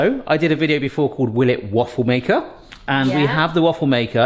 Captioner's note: none